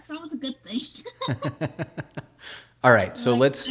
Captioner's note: laughing